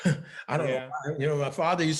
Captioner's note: laughing